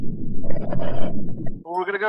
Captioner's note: water bubbling